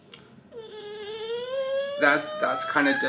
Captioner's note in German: DJ weint